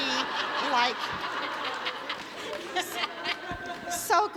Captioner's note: audience laughs